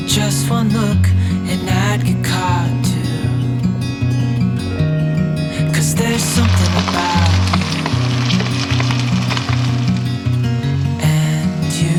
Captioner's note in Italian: Applauso